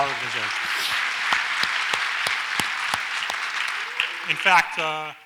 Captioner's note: audience applauds